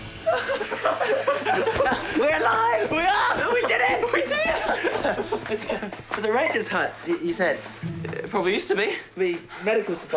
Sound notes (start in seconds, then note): 0.2 laughing maniacally